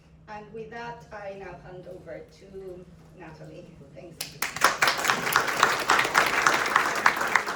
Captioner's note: applause